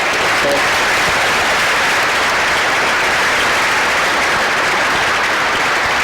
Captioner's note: crowd applause